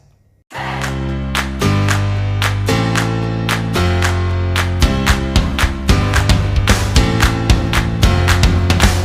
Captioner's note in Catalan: Aplaudiment